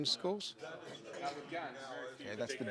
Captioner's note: audience speaking in chorus